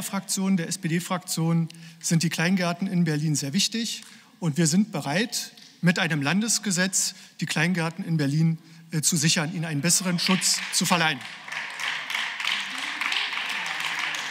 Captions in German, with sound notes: Meiner Fraktion, der SPD Fraktion, sind die kleinen Garten in Berlin sehr wichtig, und wir sind bereit mit einem Landesgesetz die Kleingarten in Berlin zu sichern, ihnen einen besseren Schutz zu verleihen. (Beifall)